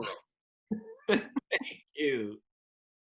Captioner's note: laughs